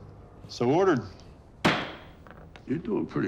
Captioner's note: gavel bangs